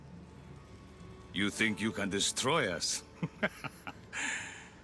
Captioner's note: laughs